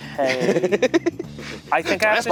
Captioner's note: laughing